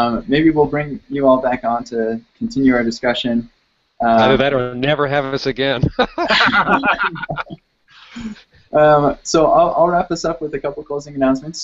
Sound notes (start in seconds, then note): 5.8 laughs